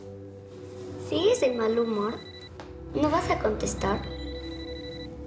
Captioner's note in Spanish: suena un celular; el celular sigue sonando